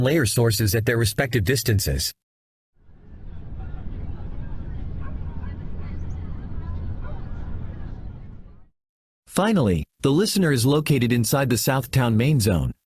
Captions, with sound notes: layer sources at their respective distances. [Volcano Rumble and Busy Town Ambience from a Distance] Finally, the listener is located inside the South Town main zone.